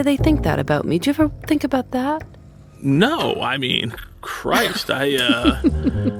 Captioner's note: laughs